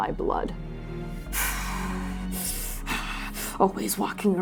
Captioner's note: growling